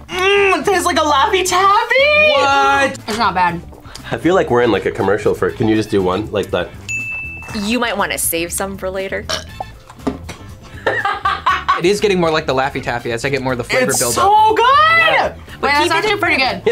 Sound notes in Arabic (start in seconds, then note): 6.8 يرن الجرس; 9.2 تجشؤ ملاك; 10.8 يضحك